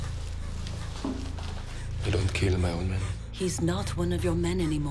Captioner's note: panting